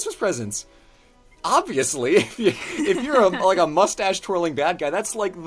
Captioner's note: laughs